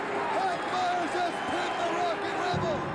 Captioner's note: cheers and applause